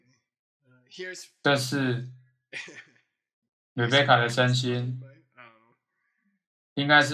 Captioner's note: laughs